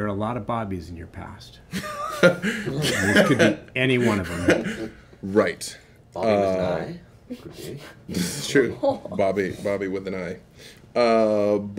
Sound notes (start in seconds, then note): 1.8 laughing